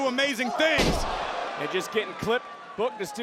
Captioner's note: body thudding